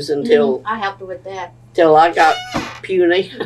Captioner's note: laughter